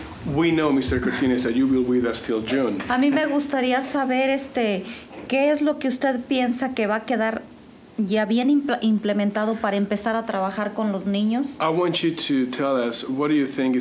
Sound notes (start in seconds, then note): 3.2 speaking Spanish